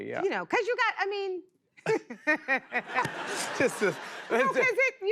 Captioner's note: laughs